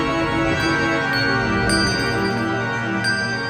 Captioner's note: bell dings